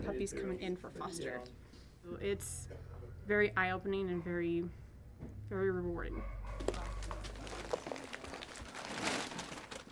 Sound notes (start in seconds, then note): 6.5 dog food bags rustle